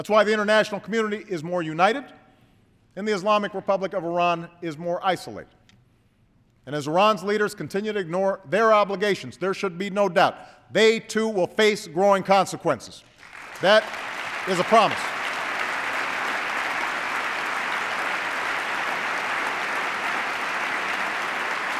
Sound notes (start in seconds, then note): 19.4 applause